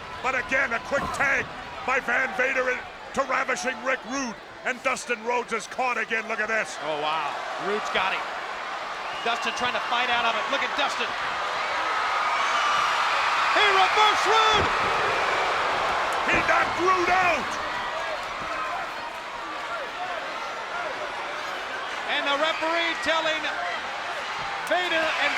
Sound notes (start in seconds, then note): 11.6 spectators cheering; 18.0 spectators cheering